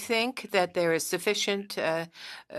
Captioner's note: speaking French